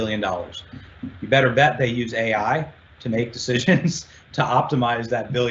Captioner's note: chuckles